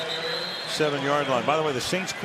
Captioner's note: pa announcement